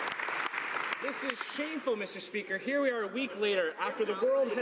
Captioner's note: some Applause